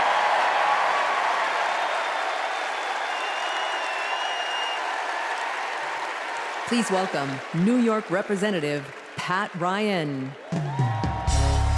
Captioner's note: cheers and applause